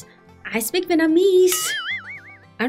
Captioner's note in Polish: efekt dźwiękowy